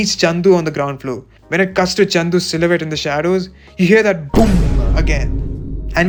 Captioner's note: boom